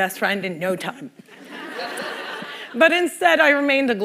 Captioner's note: laughter